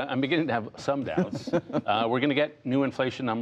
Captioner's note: laughter